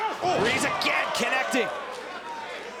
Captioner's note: crowd chatter